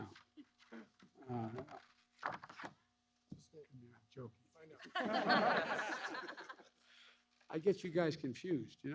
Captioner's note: laughter